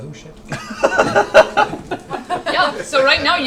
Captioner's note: all laugh